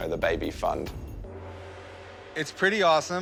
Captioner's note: gong reverberates